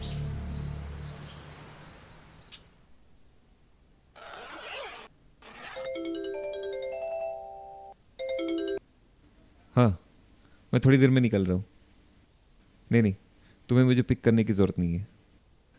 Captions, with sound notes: (Zipper sound) (Phone ringing) Yeah... I shall be leaving in a short while. No, you don't need to pick me up.